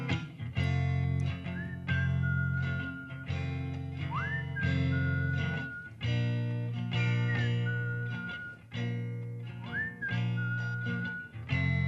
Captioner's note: whistling